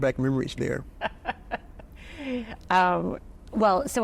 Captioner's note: laughs